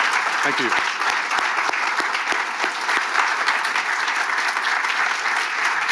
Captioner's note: audience applauding